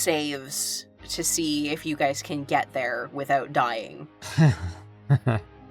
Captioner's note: chuckles